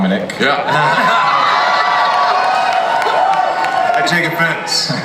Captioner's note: audience cheers